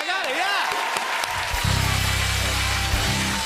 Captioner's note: cheers and applause